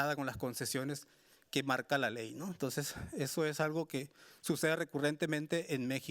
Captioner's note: speaking Spanish continues